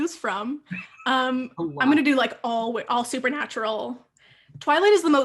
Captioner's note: laughing